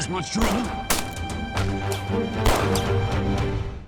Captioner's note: gunshots continue